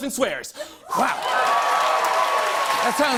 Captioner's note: cheers and applause